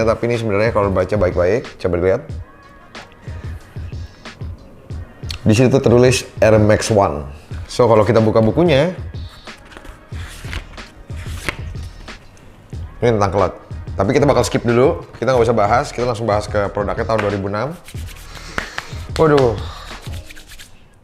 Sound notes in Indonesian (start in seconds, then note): 11.0 suara kertas dibalik